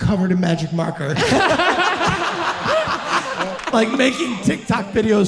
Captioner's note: audience laughing